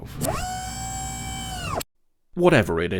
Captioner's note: pneumatic whine